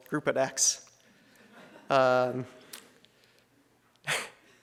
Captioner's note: audience chuckles; presenter chuckles